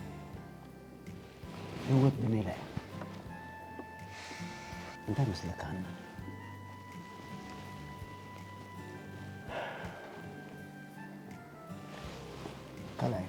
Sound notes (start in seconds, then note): 9.4 deep sighs